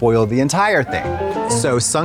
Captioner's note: bright chime